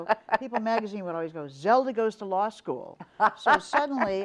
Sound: laughs

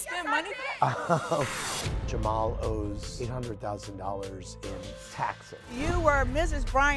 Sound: laughs

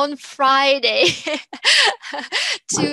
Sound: laughing

